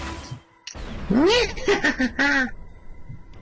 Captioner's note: laughs